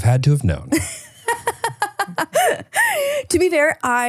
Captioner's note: laughing